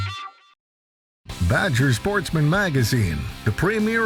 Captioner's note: voiceover